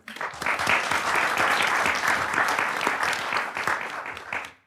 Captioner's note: audience applauds